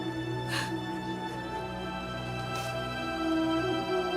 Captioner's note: crying